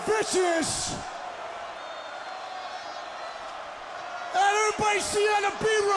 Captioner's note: crowd chatter